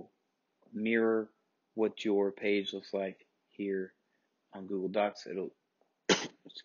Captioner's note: sneeze